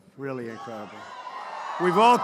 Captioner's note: applause